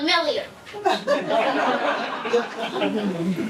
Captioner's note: audience laughing